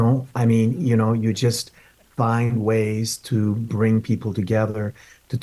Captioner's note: speaking in Spanish